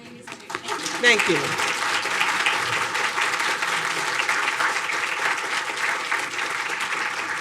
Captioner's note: audience applauding